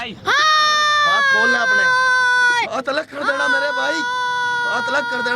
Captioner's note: non-english speech; boy screaming